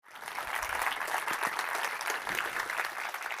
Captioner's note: applause